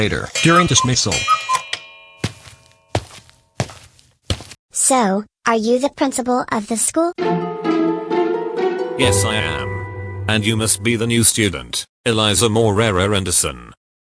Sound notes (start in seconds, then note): 2.2 footsteps